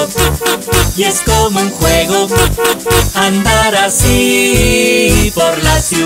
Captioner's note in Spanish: Sonido de bocina